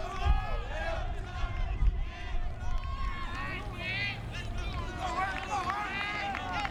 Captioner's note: players yelling in foreign language